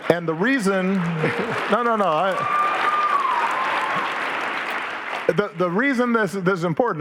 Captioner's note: audience laughing; audience applauding